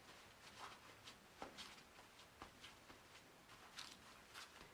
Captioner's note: soft thuds